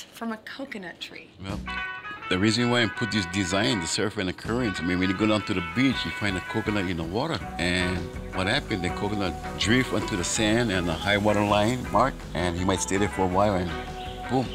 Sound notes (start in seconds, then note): none